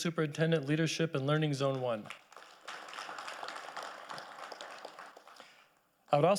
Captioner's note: audience applauding